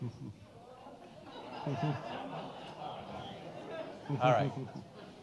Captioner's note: all laughing